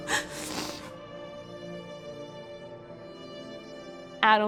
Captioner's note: whisper crying